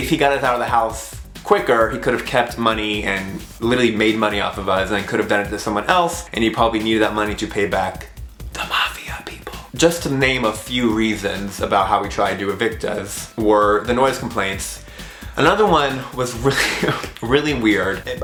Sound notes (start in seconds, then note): 8.4 whispers